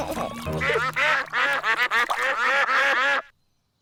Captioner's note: both giggling; ducks continue quacking; ducks quacking